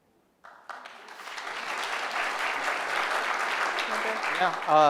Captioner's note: applause